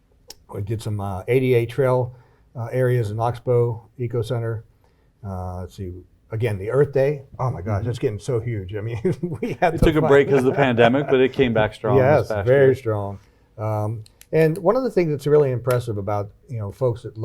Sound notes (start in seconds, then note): 8.8 chuckles; 11.2 laughs